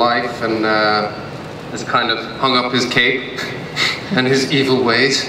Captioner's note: laughs